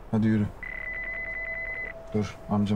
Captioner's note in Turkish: Telefon Çalıyor